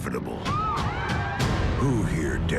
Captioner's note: citizens exclaim